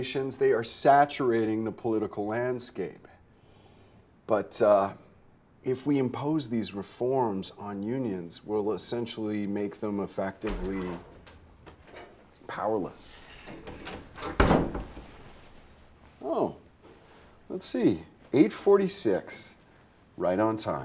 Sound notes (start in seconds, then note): 13.1 door thudding